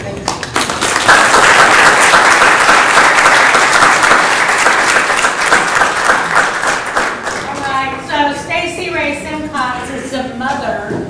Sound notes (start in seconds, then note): 0.2 applause